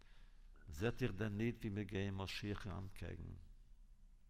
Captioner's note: Yiddish